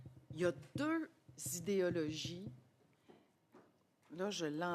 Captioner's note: speaking French